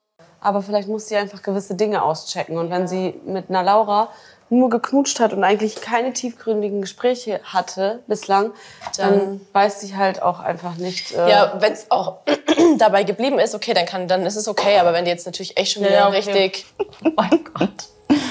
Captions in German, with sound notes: "Aber vielleicht muss sie einfach gewisse Dinge auschecken." "Wenn sie mit einer Laura nur geknutscht hat und eigentlich keine tiefgründigen Gespräche hatte bislang, dann weiß sie halt auch einfach nicht ..." "Ja, wenn's, oh ..." (Räuspern) "... dabei geblieben ist, ist es okay." "Aber wenn die schon ..." - "Ja." (Lachen) Mein Gott.